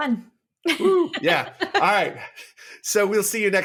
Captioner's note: laughs